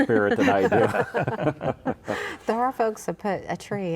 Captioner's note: all chuckling